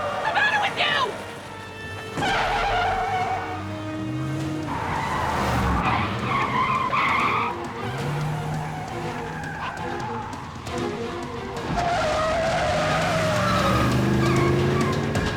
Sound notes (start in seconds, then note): 2.5 tires screeching; 7.7 thrilling music